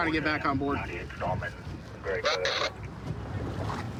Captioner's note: radio communication